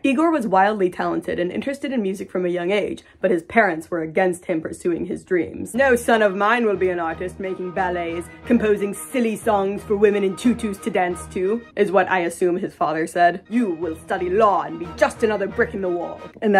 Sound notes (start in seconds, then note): 5.7 unsupportive father voice